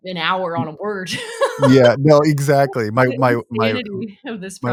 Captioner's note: laughing